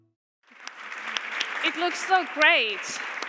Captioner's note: Aplodit